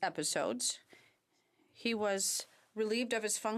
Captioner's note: speaking French